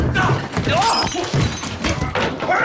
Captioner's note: glass breaking